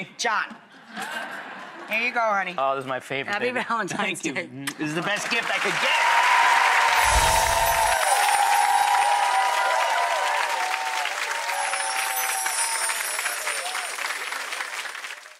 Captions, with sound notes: John. Here you go, honey. Oh, that's my favorite, baby. Happy Valentine's day. Thank you. This is the best gift I could get. (applause) (light chimes)